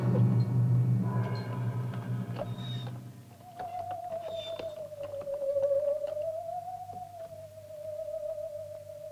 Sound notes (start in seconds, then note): 2.9 cart wheels creaking; 2.9 eerie music